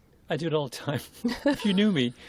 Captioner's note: laughter